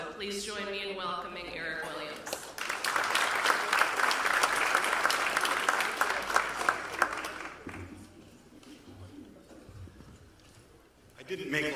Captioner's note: applause